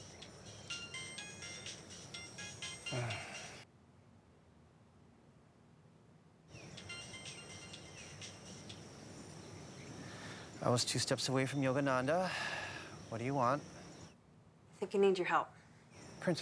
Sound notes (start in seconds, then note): 2.9 Joel sighs; 6.7 phone ringing; 12.2 sighs